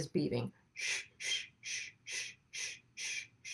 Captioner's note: shushes